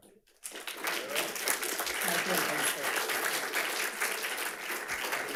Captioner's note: audience applauds